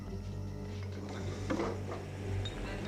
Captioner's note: chair creaking